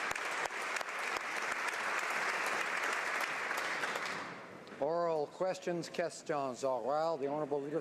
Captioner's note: applause